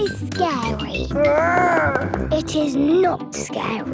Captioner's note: growls